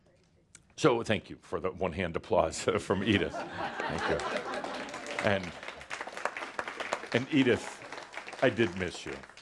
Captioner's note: laughter and applause